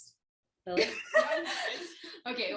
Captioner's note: laughter